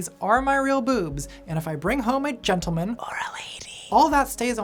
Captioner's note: whispers